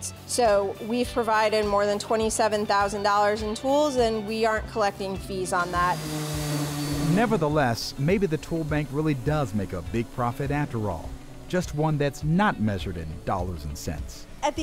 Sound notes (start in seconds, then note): 5.3 sander whirring